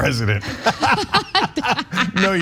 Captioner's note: laugh